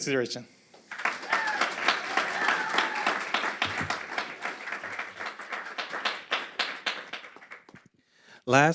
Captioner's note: applause and crowd whistles